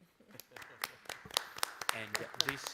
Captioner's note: applause